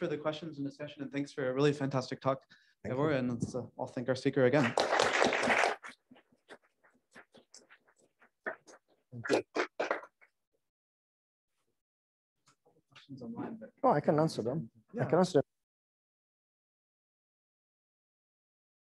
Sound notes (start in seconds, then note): 9.2 applause